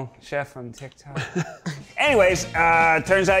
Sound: chuckles

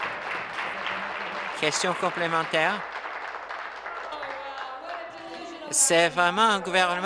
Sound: applause

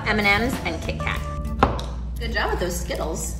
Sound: knife thuds

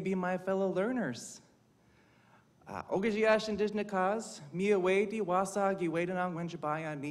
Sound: speaking indigenous language

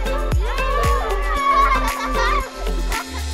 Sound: laughing

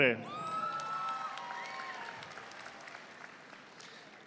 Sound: audience applauding

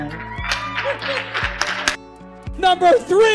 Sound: cheering

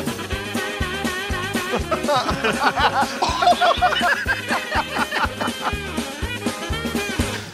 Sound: laughing

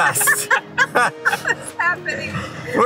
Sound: laughing

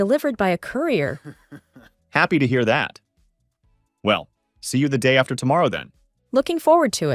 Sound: laughs

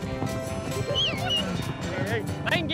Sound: whistles

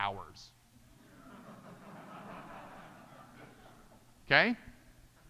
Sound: audience laughing

